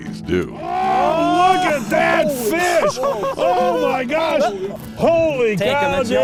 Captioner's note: screams